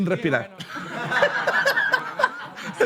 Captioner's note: laughter